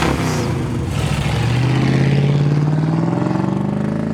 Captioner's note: engine revs